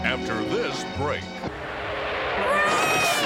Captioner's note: tires screech